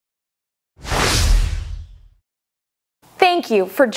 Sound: screen thunders in

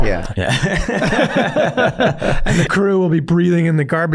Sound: all laughing

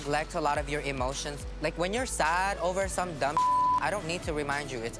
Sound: beep sound

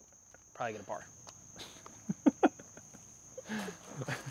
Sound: laughter

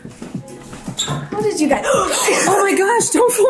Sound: gasps; laughs

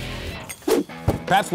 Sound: whoosh

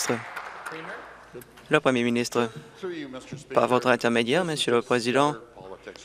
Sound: applause

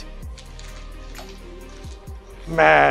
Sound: so much crinkles

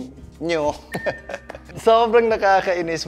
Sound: chuckles

